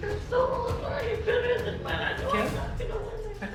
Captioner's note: speaking tearfully